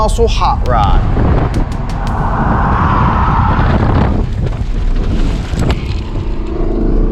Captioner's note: wind whooshing; engine revving